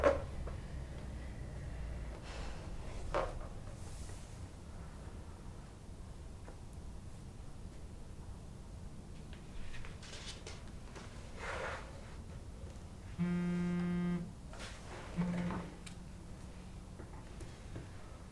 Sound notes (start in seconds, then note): 13.1 phone vibrating